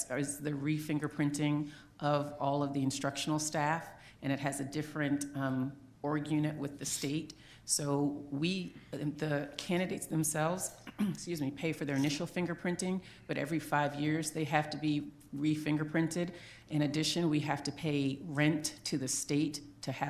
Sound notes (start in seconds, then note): 10.8 clears throat